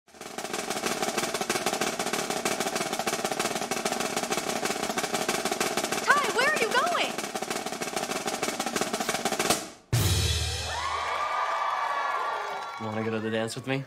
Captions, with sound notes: [snare drumroll playing] Tye, where are you going? [snare drumroll playing] [audience cheering] Want to go to the dance with me?